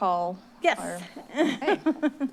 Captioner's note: laugh